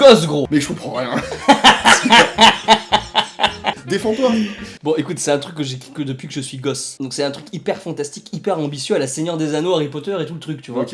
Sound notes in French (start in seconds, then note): 1.1 gros rire de